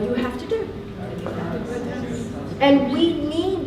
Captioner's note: participants talking at once